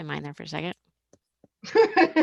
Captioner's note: laughs